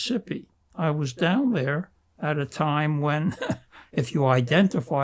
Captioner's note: laughing